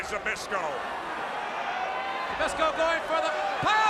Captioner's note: crowd cheering